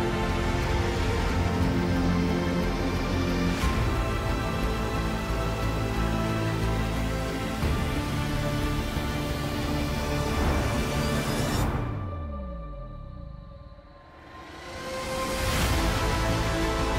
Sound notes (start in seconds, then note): 1.7 plane rumbling